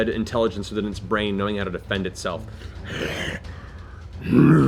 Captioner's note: growls